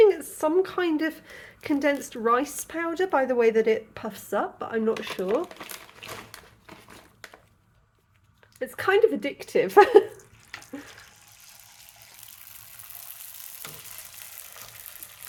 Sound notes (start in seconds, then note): 9.7 laughing; 12.5 oil sizzling